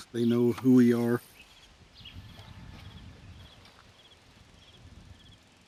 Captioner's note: crickets chirping